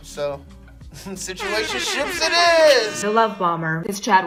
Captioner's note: air horns blaring